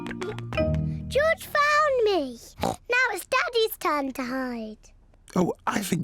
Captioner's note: snorts